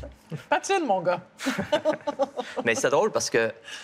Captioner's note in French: rires